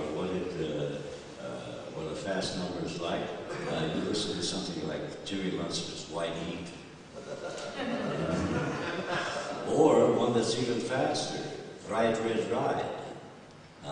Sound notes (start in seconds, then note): 7.1 laughter